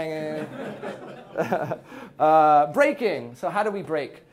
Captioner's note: laughing